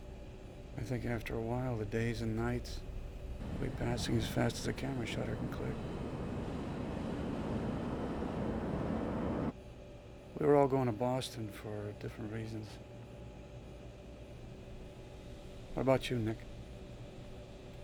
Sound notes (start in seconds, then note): none